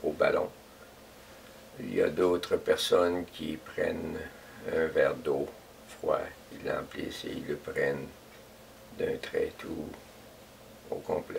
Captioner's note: breathing